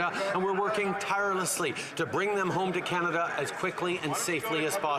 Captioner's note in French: voix de l'interprète